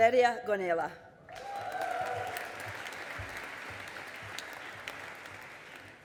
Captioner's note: audience applauding